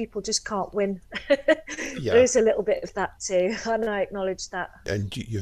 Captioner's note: laugh